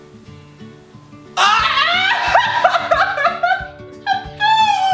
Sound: screams

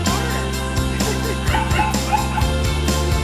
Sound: barks

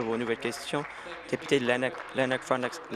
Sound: applause

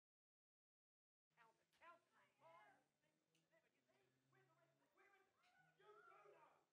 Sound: indistinct chattering in the background

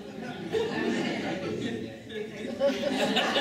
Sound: laughing

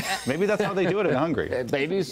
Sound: laughter

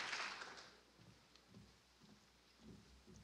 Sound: applause

